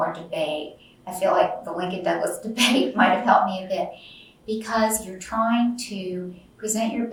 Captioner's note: laughs